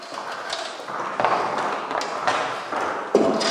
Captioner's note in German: Klappern, Scheppern